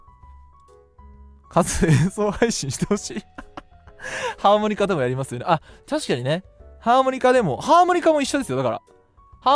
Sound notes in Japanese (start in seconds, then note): 3.0 笑い; 3.9 息をのむ音